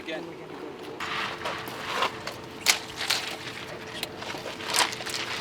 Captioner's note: loud clatters